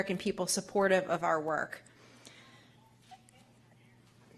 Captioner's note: laughs